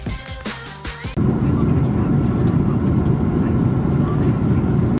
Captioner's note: airplane engines